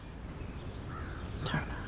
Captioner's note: crows cawing